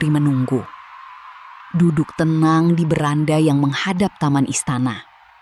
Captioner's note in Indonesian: bersorak